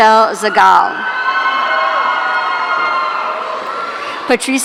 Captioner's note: audience cheering